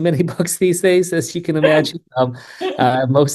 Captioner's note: laughs